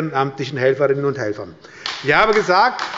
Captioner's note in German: Beifall bei der SPD